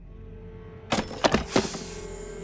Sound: thudding

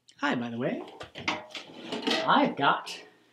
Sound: bucket clanks

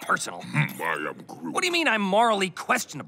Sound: scoffs

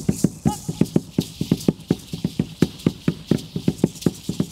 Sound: Aztec man utters

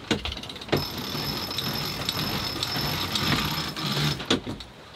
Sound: lever cranking

